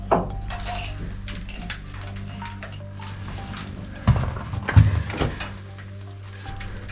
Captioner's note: metal scraping; heavy breathing